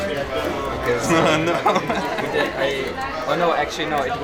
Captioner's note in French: rire nerveux